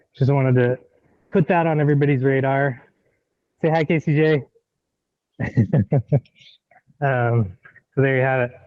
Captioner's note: laughs